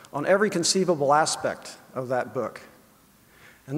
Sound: none

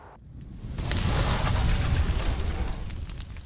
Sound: sizzle

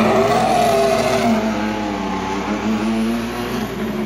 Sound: engine revs

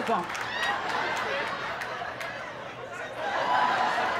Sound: laughter

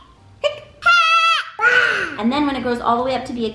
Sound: yells

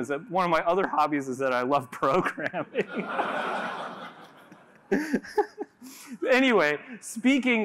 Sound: laughter

